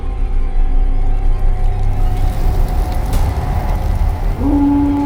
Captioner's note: fire crackling; Rougarou howling